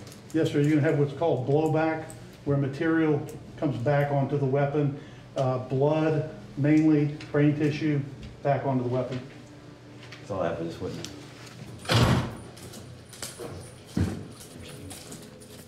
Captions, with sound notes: - Yes, sir, you're gonna have what's called blow back, where material comes back onto the weapon, blood mainly, brain tissue, back onto the weapon. - That's all I have for this witness. (door shuts)